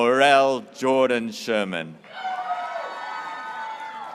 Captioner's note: graduates cheering